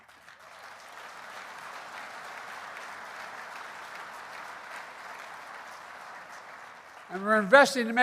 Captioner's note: applause